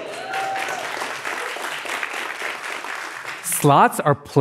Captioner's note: applause